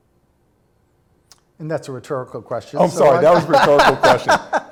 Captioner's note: laughter